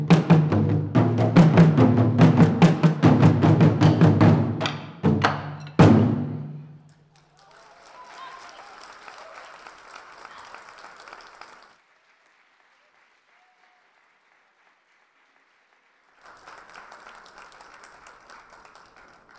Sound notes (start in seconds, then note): 8.3 audience applause